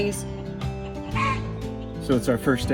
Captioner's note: chicken squawk